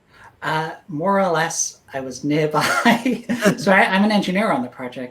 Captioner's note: laughs